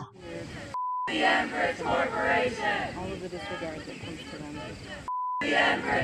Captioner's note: beep